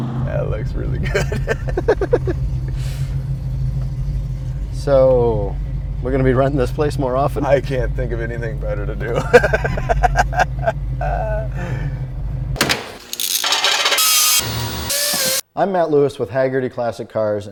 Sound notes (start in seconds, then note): 0.9 laughs; 9.0 laughs; 12.6 drawer thuds; 12.6 drills whir